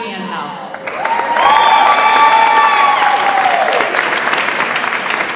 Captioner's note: audience applauds and cheers